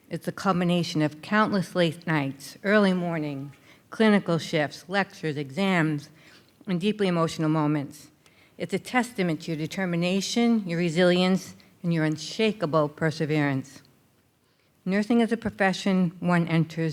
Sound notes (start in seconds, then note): none